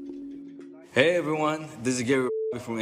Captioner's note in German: englisch